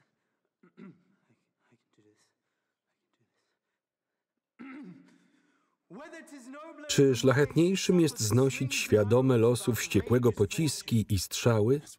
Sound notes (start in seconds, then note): 0.6 clears throat; 4.6 clears throat